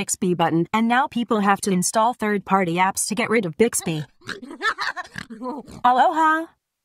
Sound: Google and Alexa laughing

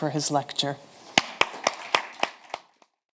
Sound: audience clapping

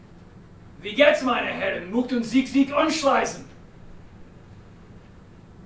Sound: speaking in German

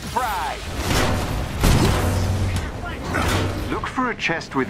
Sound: metal clashing

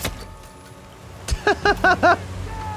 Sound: laughs

